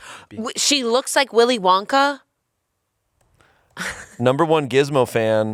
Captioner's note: laughs